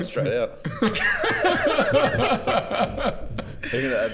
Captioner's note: giggles